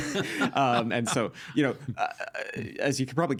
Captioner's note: laughing